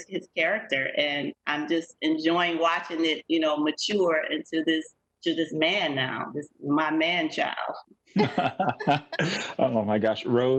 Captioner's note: laughter